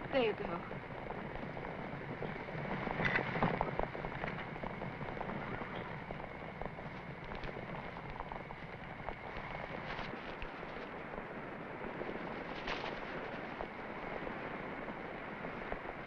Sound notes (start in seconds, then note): none